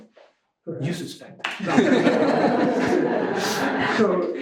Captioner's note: laughter